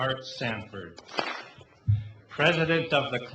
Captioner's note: clap